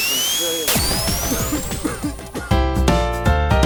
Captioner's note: heavy coughing